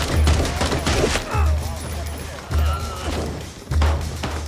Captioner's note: bandit grunts